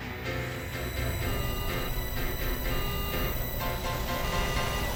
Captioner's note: beeping